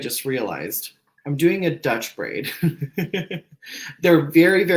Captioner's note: laughs